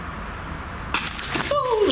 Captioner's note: thud